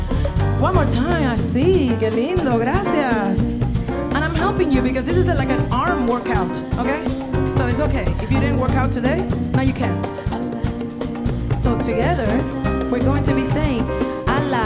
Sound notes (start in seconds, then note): 2.0 speaking in Spanish; 13.4 speaking in Spanish